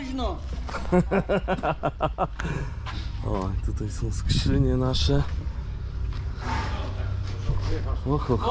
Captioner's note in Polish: śmiech